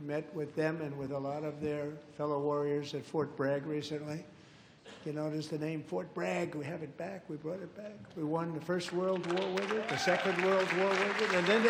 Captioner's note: applause